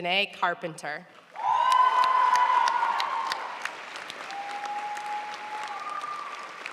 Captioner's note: audience cheering and applauding